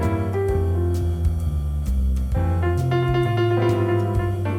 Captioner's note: none